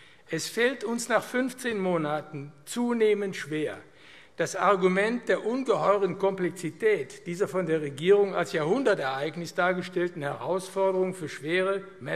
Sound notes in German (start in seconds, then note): none